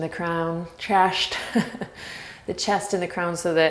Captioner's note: laughs